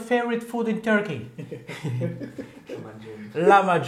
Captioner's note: Gülüşmeler